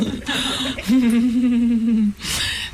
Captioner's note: laughing